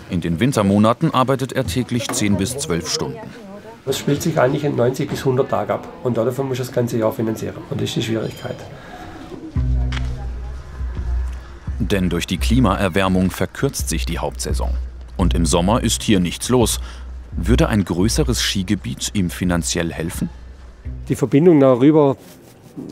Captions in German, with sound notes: In den Wintermonaten arbeitet er täglich zehn bis zwölf Stunden. Es spielt sich eigentlich in 90 bis 100 Tagen ab. Davon musst du das ganze Jahr finanzieren. (Dumpfe Klänge) Denn durch die Klimaerwärmung verkürzt sich die Hauptsaison. Und im Sommer ist hier nichts los. Würde ein größeres Skigebiet ihm finanziell helfen? Die Verbindung da rüber ...